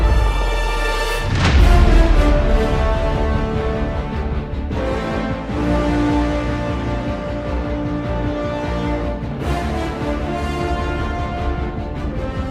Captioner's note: epic Music; rocket roars into outer space